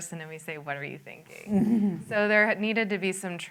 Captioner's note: laughter